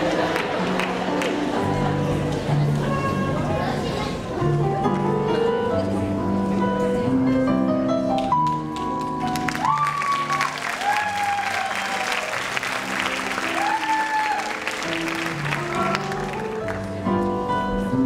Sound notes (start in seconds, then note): 12.9 audience cheering and whistling